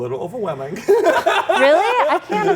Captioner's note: laughs